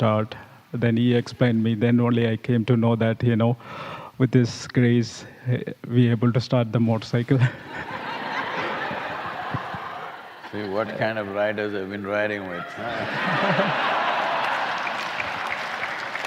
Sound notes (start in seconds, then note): 7.4 laughter; 12.6 laughter/Applause